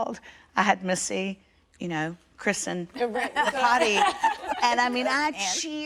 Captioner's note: laughter